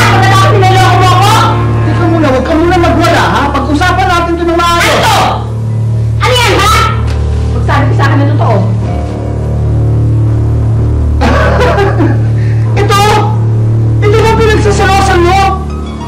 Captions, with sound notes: and then you deceive me. Wait. Calm yourself first. -Let's talk about this properly. -What's this? What is it, huh? Tell me the truth. [laughs] This? Is this what you're jealous about?